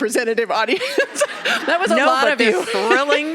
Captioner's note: laughing